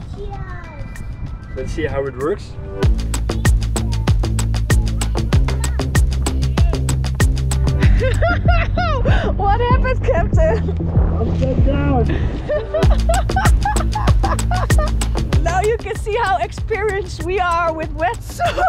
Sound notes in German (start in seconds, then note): 12.0 lacht